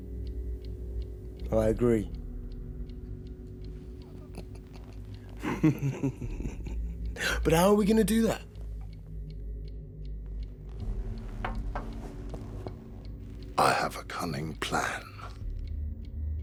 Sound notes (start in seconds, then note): 4.0 soft chuckles; 11.3 glass thuds